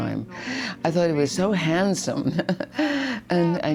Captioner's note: chuckling